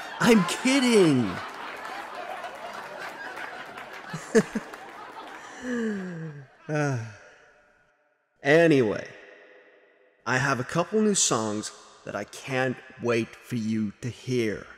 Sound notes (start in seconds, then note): 4.8 laughter dies down